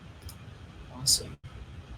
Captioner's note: clicking